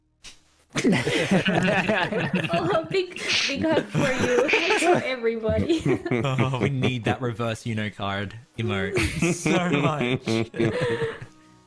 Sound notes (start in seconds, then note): 0.8 camaraderie and laughter; 4.7 more laughter; 8.8 chuckling